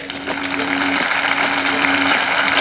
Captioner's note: Clapping